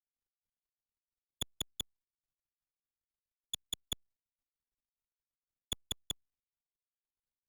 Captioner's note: soft, high-pitched clicks